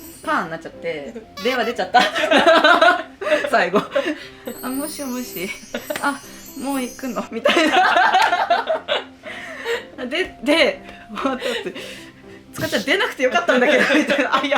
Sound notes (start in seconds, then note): 3.9 laughs; 8.5 laughs